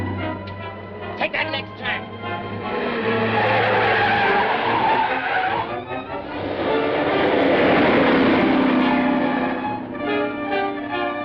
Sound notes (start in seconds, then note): 3.5 tires screeching; 9.1 suspenseful music